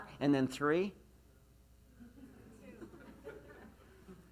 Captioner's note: laughs